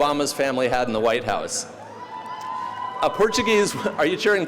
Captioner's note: audience cheering